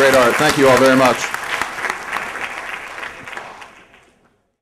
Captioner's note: applause